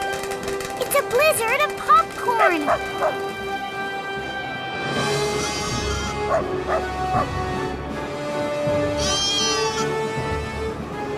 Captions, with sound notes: - It's a blizzard of popcorn! - [barking] [bleating, barking] [bleating]